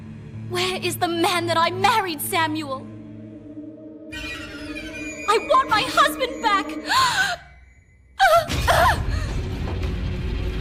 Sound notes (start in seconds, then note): 7.5 gasp; 8.5 cries; 9.6 menacing music